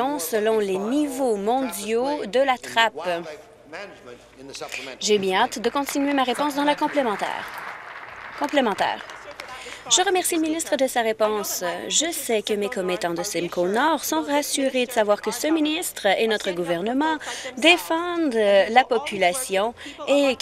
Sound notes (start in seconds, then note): 11.2 applause